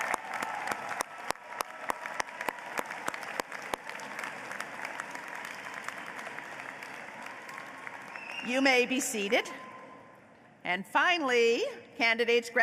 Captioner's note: applause